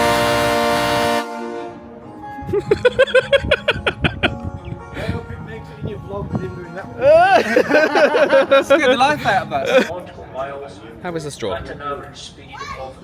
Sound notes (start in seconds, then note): 2.5 laughs; 7.0 both laughing